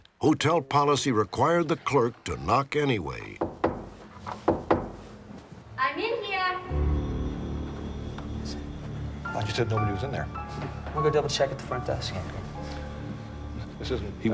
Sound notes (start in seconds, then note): 3.4 knocking